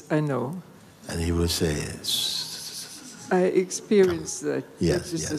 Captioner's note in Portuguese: sussurrando